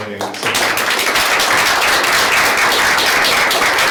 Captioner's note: clapping